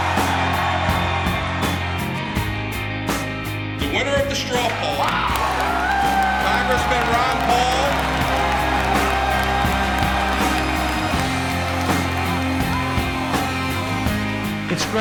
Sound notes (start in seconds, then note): 0.0 cheers; 4.4 cheers; 4.5 cheers, applause